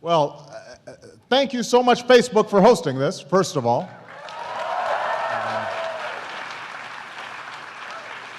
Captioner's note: applause